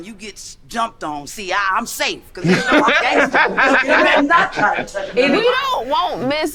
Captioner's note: man laughing